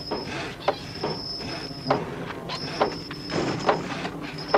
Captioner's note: metal squeaking